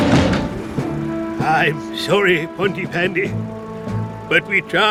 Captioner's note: sighs